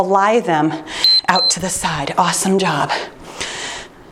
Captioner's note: timer beeps